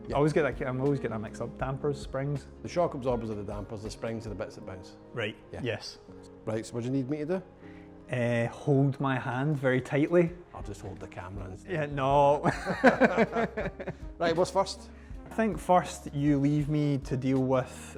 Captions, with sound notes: I'm always getting that mixed up. Damper springs. The shock absorbers are the dampers, the springs are the bits that bounce. Right, yes. Right, so what do you need me to do? Hold my hand very tightly. I'll just hold the camera and... No. [LAUGHTER] Right, what's first? I think first you leave me to deal with